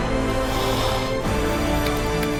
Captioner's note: sigh